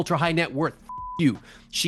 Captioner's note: beep